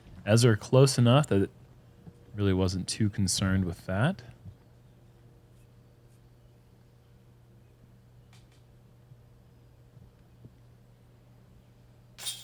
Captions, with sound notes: Ezra close enough that he really wasn't too concerned with that. [silence]